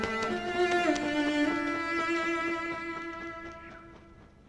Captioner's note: bird flying